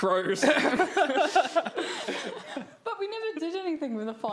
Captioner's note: all laughing